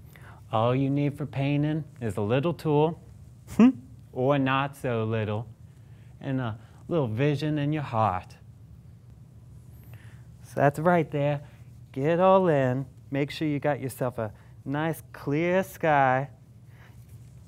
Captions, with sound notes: All you need for paintin' is a little tool. *CHUCKLES* Or not so little. And a little vision in your heart. So that's right there. Get it all in. Make sure you got yourself a nice, clear sky.